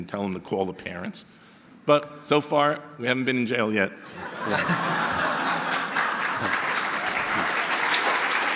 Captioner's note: audience laughter and applause